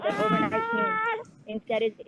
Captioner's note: baby wails over speaker